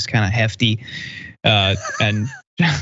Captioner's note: laugh